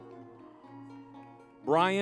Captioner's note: lively music; crowd cheering